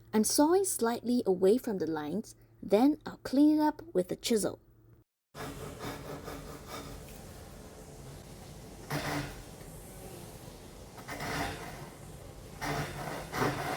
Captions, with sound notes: I'm sawing slightly away from the lines, then I'll clean it up with a chisel. [sawing sounds]